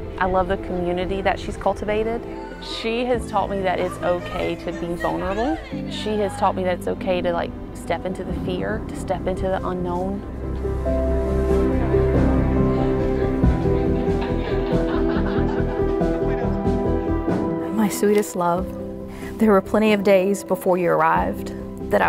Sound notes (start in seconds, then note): 12.6 distant laughs